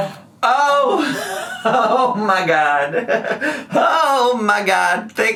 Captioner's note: laughs